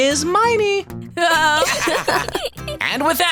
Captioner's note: laughter